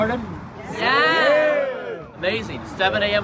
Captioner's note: crowd